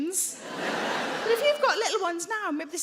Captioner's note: audience laughing